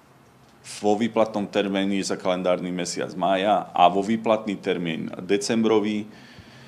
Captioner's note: sigh